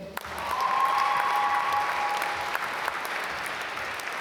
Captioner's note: applause